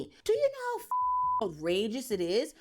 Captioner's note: beep